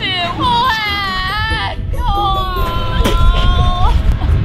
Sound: sobbing

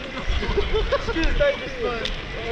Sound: laughs

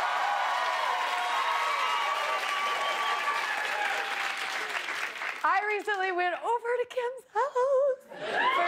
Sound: cheers and applause

